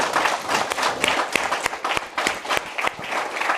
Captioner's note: applause